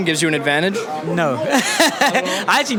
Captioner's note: laughs